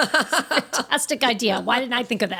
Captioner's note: laughing